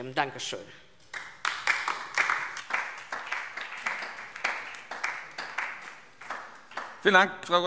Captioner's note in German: Beifall DIE LINKE und vereinzelt SPD